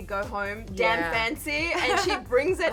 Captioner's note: chuckles